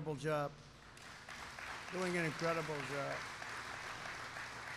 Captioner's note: applause